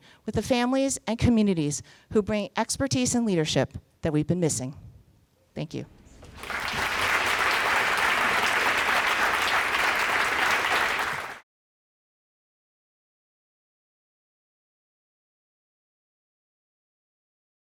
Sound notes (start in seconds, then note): 6.3 applause